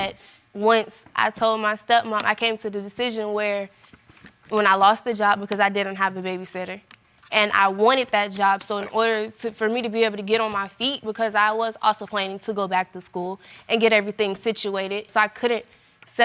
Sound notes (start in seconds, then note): none